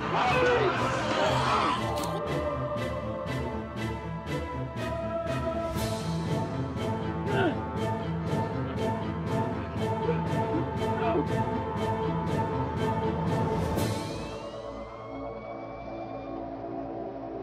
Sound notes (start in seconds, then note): 0.0 snarling; 0.5 grunting; 5.4 somber music; 7.2 grunting; 14.5 sirens wailing